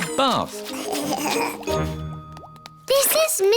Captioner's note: giggling